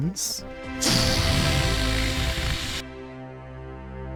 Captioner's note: deflating sounds; scary, triumphant music